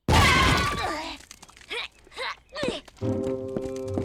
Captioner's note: screams; grunting noises